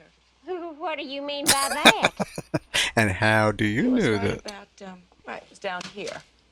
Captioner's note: laughing